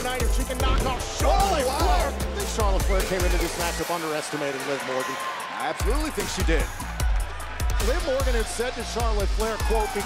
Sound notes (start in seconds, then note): 5.1 crowd cheering